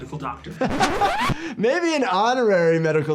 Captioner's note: laughing